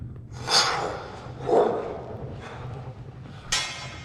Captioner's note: Buzz makes whooshing sounds